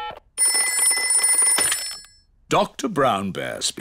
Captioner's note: ringing